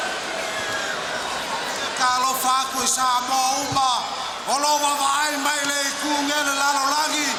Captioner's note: Wild Samoan speaking in foreign language